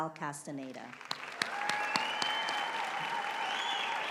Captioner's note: applause